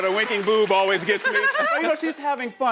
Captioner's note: laughter